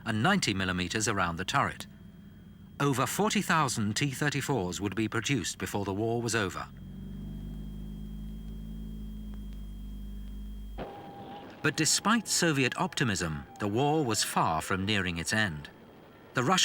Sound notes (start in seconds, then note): 7.9 engine rumbling